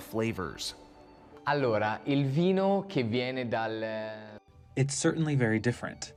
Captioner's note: through translator